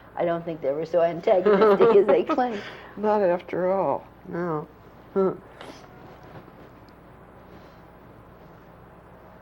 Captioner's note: laughter